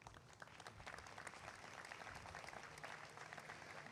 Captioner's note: applause